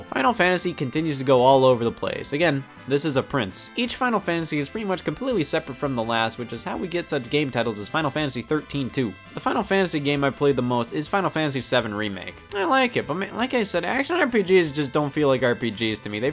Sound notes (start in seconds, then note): none